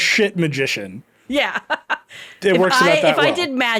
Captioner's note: laughing